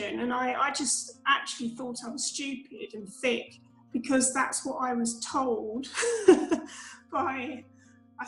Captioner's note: laughs